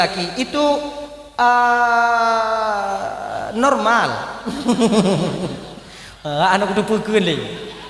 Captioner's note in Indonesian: tertawa